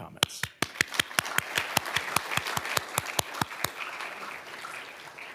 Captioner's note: audience applauding